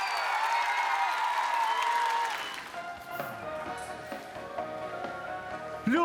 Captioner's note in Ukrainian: оплески